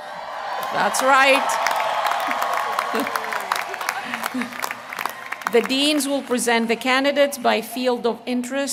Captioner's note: applause